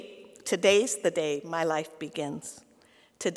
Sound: none

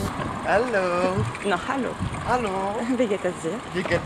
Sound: german

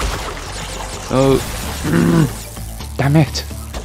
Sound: angry noises

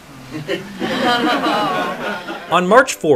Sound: uncomfortable laughter

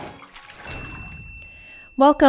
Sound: bell chimes

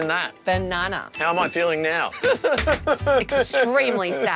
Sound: cries

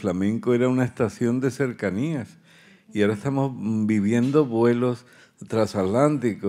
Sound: continues in Spanish

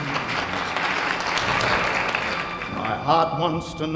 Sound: audience applauds

